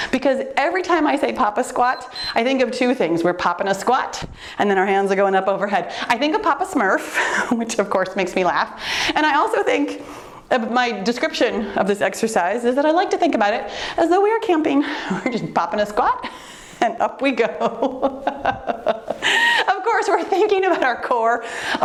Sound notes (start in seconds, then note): 1.8 timer beeps; 17.4 laughs